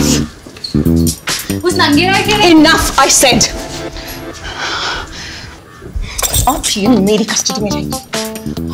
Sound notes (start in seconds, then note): 5.8 Breathing shakily